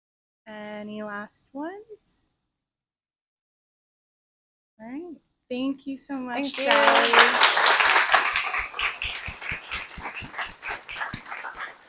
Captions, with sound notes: -Any last ones? -All right thank you so much! [Applause]